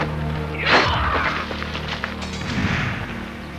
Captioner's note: Wilson screams